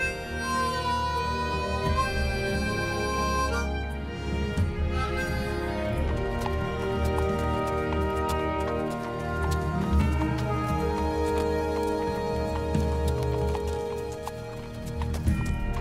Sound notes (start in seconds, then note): 0.1 exciting inspiring music; 6.6 hooves clomping